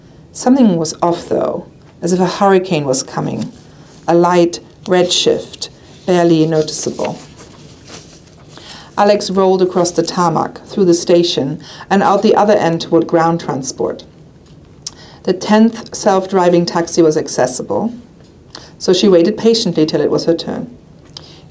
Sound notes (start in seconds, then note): none